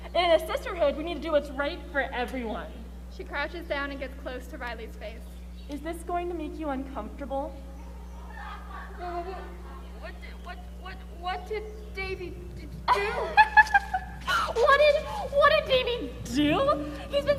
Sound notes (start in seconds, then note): 8.1 people laugh; 9.0 stammers; 12.8 Mrs. Thompson laughs